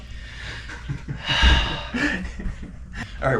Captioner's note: deep sigh